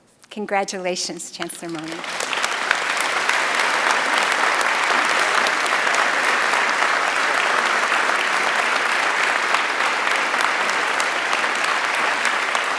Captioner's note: applause